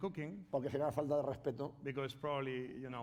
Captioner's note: speaking spanish